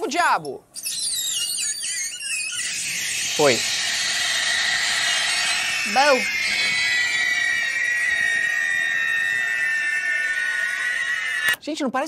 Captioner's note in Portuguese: orbes faz barulho agudo